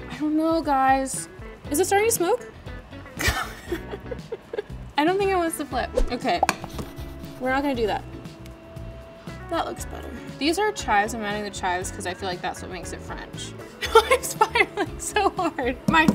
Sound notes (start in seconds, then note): 3.2 Madelyn laughs